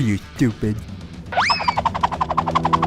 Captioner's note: cartoon throwing noise